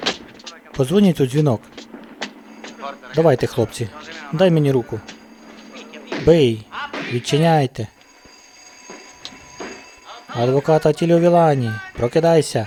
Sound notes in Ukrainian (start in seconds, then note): 7.6 дверний дзвінок